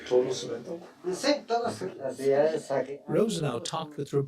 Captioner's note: speaking Spanish; father speaking Spanish